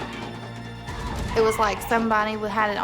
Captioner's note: shouting